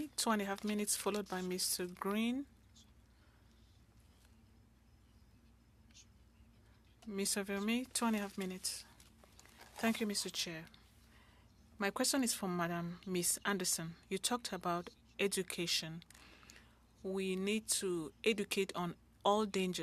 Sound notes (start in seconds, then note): 3.7 speaking French